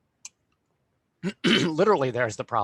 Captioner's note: throat clearing